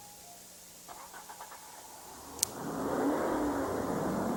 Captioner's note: car starts